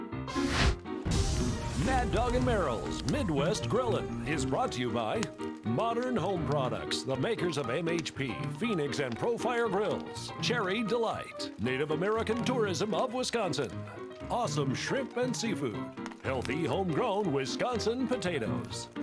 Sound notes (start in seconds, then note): 0.2 flame whooshing